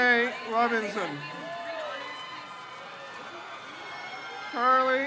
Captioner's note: crowd cheers